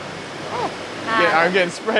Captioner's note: manly Scream